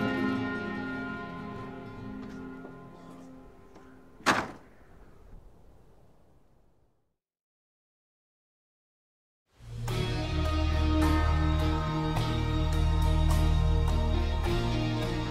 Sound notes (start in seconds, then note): 4.1 door shuts; 9.7 exciting music